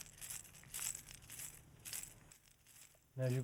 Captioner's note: none